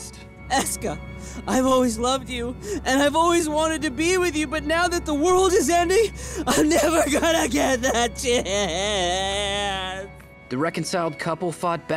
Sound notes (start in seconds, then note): 8.9 crying